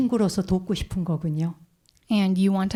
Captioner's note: speaking in Korean